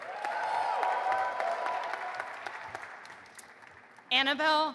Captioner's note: audience applauding and cheering